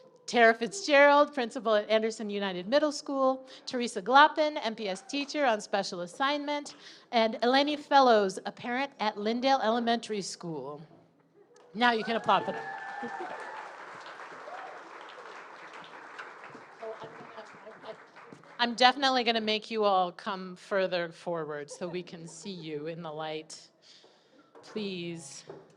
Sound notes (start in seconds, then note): 11.8 audience applauding